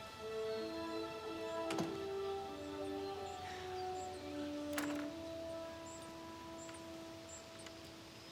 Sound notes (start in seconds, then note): 1.6 door thuds